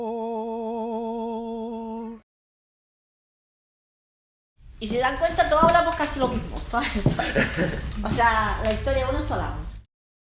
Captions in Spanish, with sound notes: Y si se dan cuenta, todos hablamos casi lo mismo [risas] O sea, la historia es una sola.